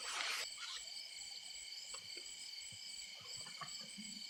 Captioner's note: crickets chirping